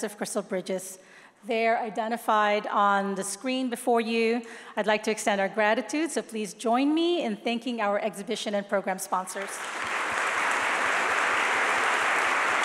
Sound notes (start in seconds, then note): 9.3 applause